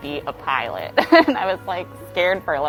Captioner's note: laughing